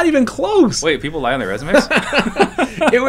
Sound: laughter

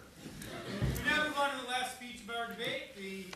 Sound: voiceover

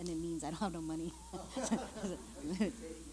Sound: laughter

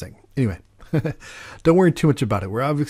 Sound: giggles

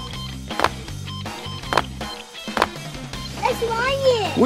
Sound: foot steps

